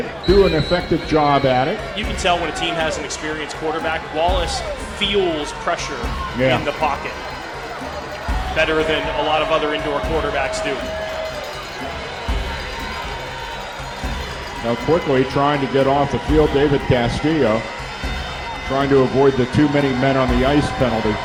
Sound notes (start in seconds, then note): 7.4 crowd Noise